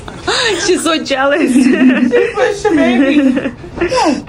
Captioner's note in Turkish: kahkaha